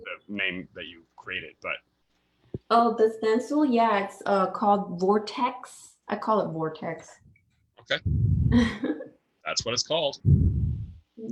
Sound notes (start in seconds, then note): 8.4 chuckles